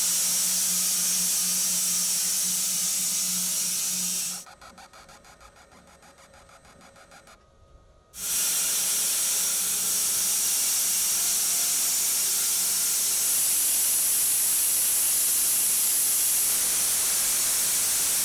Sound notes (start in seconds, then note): 4.7 saw squeaking; 8.6 saw whirring